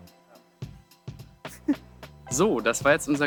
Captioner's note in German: lacht